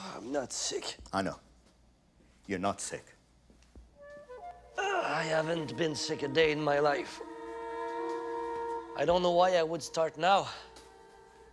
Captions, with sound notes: I'm not sick. - I know. You're not sick. - (grunts) I haven't been sick a day in my life. I don't know why I would start now.